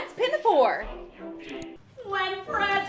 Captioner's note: mouse click